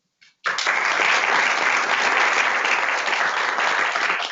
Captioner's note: audience clapping